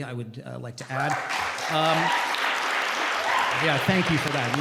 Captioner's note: applause